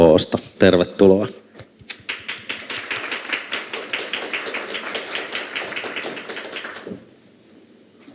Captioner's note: Aplodeja